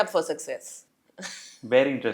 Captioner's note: laugh